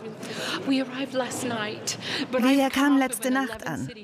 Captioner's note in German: englisch